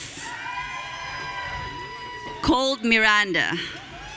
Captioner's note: audience cheering